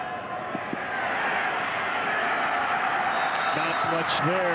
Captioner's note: fans cheer; referee blows whistle